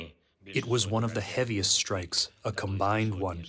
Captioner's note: through translator